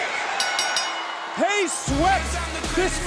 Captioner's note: bell rings